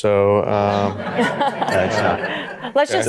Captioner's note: audience laughter